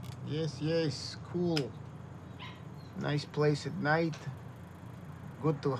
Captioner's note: dog yapping